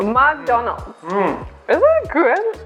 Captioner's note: positive eating sounds